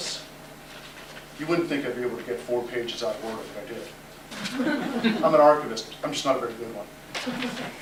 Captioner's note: laughter